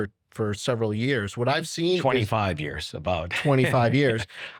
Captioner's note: chuckles